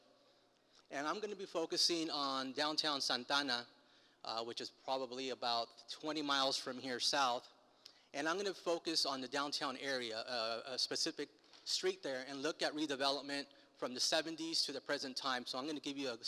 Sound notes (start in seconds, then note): none